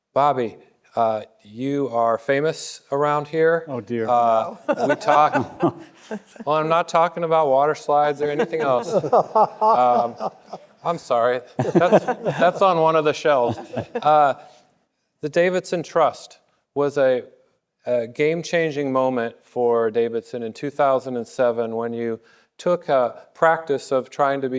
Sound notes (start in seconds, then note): 4.3 panelists laughing; 4.4 laughing; 7.9 panelists laughing